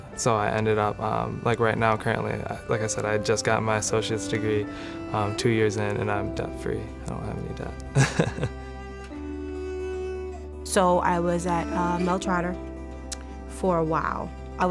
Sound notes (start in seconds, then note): 7.9 chuckling; 9.0 smooth violin music